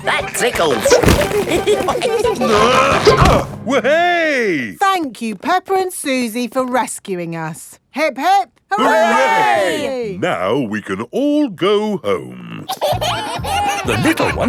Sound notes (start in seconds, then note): 1.2 all giggling; 2.4 grunting; 12.6 kids giggling